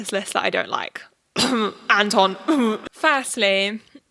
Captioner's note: coughs